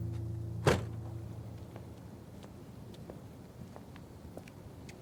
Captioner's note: car door slamming